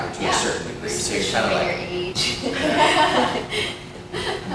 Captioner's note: laughter